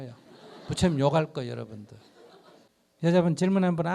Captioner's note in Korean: 청중 웃음